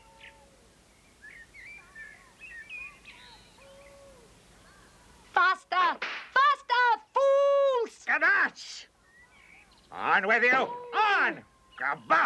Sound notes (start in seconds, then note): 7.9 dwarf speaking strange language; 10.3 speaking strange language